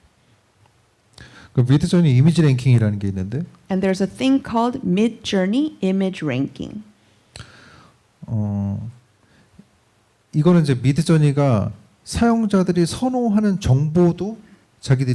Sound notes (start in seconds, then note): 1.3 speaking korean; 10.1 speaking korean